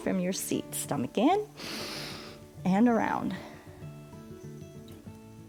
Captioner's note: inhales